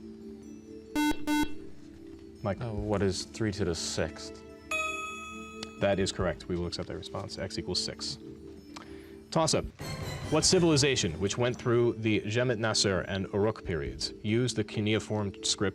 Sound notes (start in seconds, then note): 0.9 beep; 4.6 ding